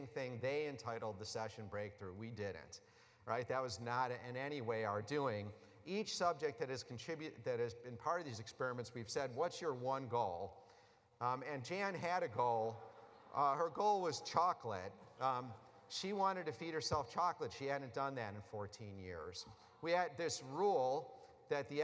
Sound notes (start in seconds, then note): 12.7 laughter